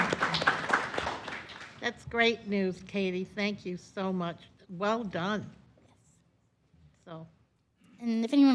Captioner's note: applause